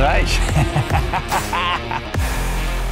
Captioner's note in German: lacht